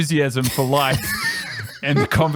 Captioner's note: laughs